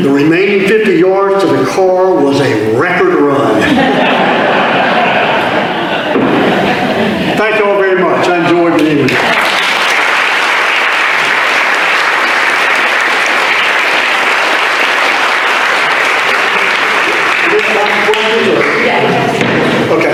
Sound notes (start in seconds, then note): 3.5 audience laughter; 8.8 audience applause